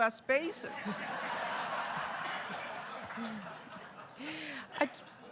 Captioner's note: audience laughing